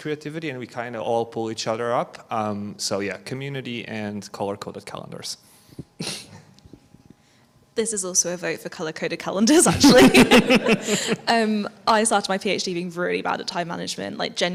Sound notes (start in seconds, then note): 6.0 chuckles; 9.6 all laugh